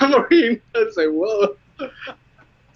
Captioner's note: laughs